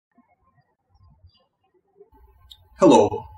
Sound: birds chirping

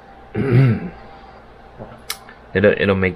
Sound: clears throat

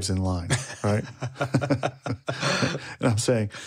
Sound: co-host laughing

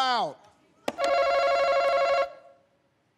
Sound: bell rings

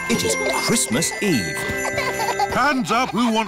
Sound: both giggling

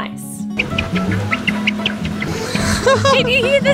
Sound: squeaking sands

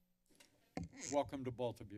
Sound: mic creaks

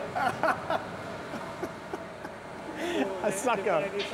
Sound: laughing

